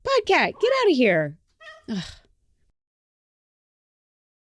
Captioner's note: trill-meows; annoyed sigh